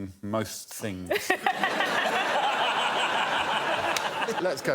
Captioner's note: laughter